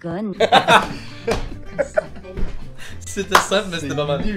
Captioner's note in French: Rires